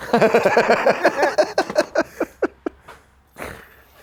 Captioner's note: guys laugh